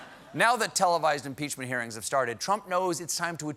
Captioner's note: laughter